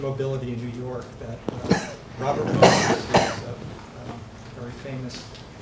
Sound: coughing drowns out speaker

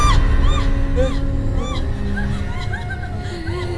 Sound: ghostly laughter

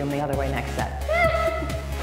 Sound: squeals

